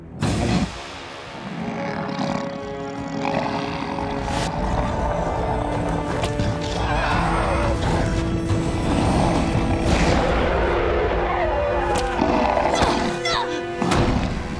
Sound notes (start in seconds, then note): 12.0 grunting